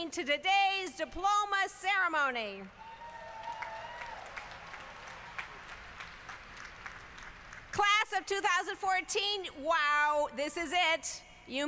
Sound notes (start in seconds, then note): 2.8 applause